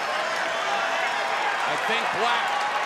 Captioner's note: cheers and applause